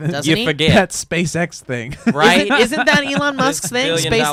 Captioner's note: laughs